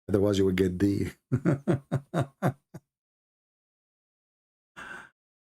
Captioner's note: Ketawa